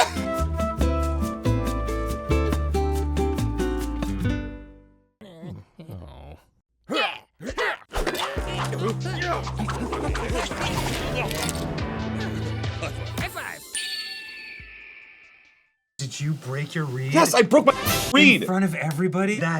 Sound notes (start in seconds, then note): 5.2 dinos grunting; 8.0 cool synth plays; 13.8 screech of a red tailed hawk